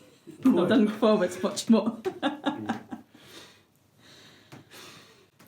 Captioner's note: laughs